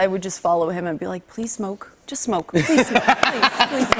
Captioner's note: laughter